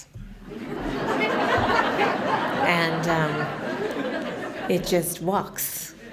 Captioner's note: laughter